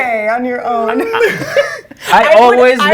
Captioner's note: all laughing